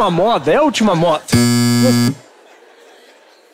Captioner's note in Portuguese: campainha